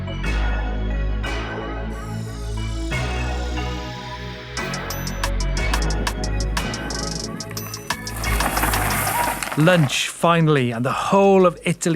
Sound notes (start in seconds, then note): 7.4 grass rustling; 7.4 gravel crunching